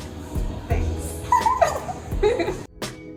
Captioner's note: laughs